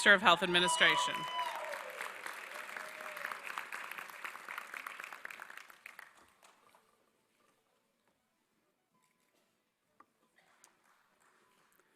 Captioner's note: applause